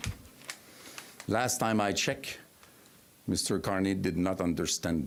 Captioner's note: speaking in french